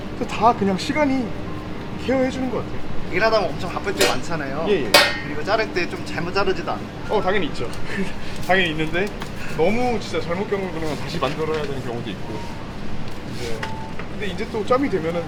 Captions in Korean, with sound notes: 다 그냥 시간이 케어 해주는 거 같아요 - 일하다 보면 엄청 바쁠 때 많잖아요 - 예예 이거 자를 때 좀 잘못 자르지도 않나요? 어 당연히 있죠 (웃음) 당연히 있는데 너무 진짜 잘못 자른 거는 다시 만들어야 되는 경우도 있고 이제 근데 이제 또 짬이 되면은